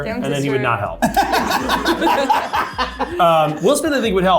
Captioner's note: laughing